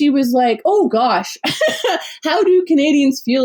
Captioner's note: laughs